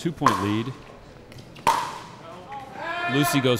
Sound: ball bouncing

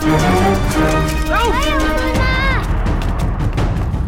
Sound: Malay Language

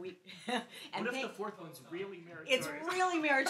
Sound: laughs; male Voice

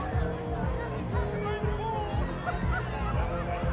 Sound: crowd chattering

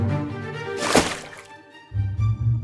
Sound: water splash sound

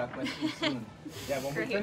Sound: laughter

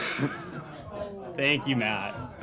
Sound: laughter

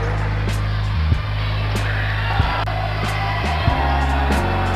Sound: crowd applauds; crowd chatters

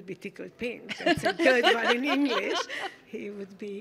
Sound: laughing

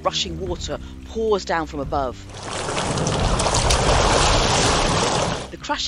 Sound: sound of rushing water

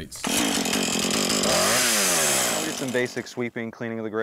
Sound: chainsaw revs

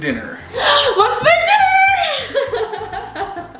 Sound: laughs

